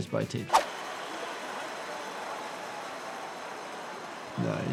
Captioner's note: crowd cheering